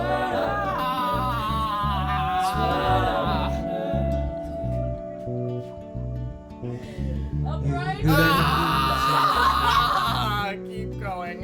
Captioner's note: screaming in pain over the music